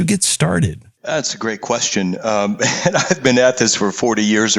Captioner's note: laugh